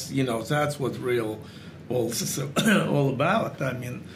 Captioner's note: cough